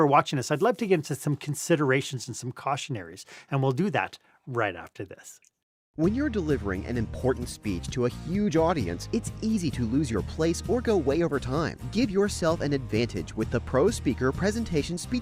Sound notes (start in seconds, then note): 5.9 voice-over